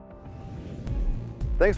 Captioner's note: whooshing